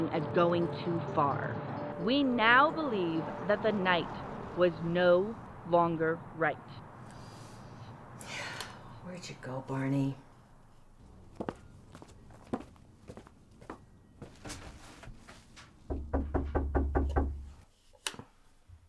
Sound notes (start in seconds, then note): 11.8 footsteps padding; 15.8 door knocking